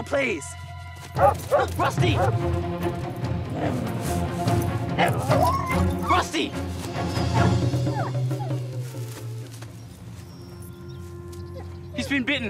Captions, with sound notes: Sam, now please! -[Rusty barking] -Rusty! -[Rusty whimpers] -Rusty!